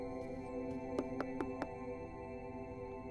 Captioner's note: Knocks on the door